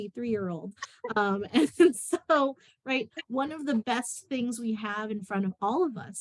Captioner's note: laughter